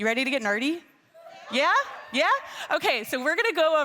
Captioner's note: attendees cheering